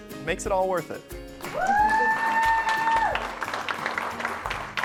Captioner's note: crowd cheering